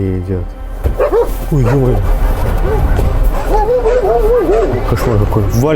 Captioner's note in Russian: лай собак